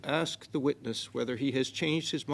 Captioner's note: speaking French